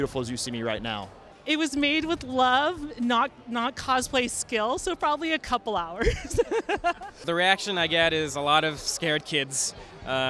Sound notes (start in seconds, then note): 6.0 laughing